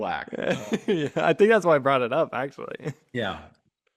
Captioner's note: laughs